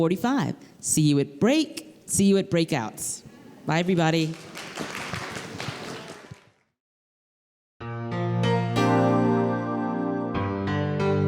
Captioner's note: applause